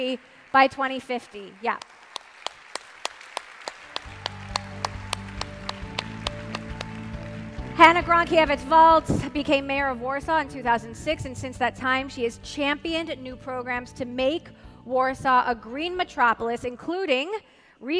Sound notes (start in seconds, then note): 6.6 applause